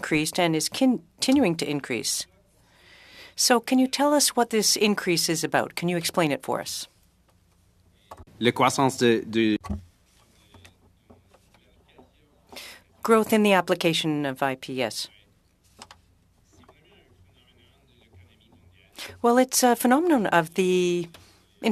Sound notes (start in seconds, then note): 19.7 speaking French